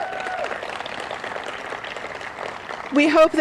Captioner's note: applause